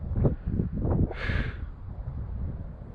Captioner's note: sighs